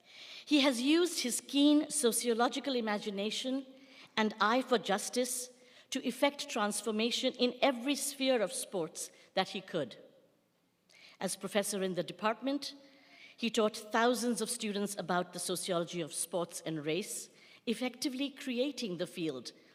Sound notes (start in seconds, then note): none